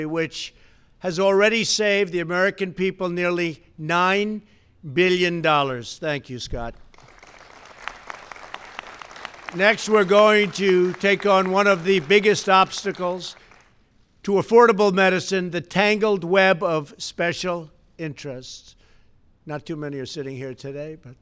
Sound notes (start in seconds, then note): 6.8 applause